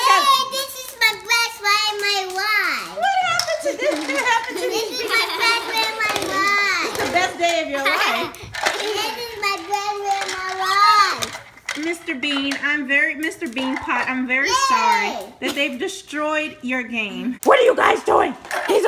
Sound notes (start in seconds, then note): 7.3 voiceover